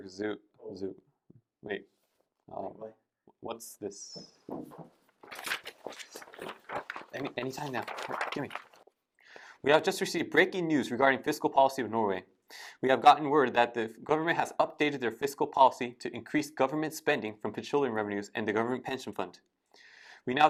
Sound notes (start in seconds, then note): 4.4 shuffling papers